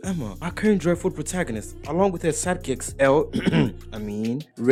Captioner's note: cough